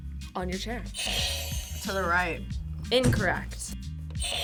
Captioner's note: buzzer rings